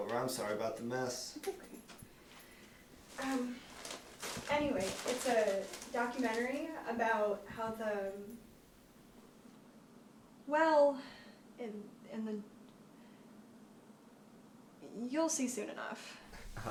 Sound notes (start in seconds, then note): 3.7 crunching noises